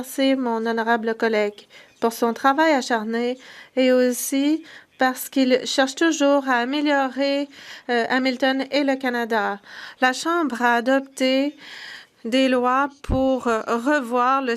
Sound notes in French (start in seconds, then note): 1.1 voix de l'interprète